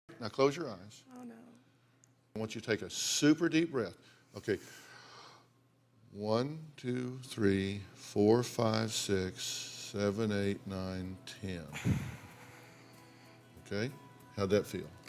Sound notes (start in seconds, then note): 4.7 inhales; 11.7 exhales